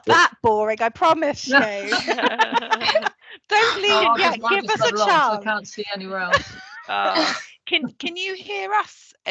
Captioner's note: laughter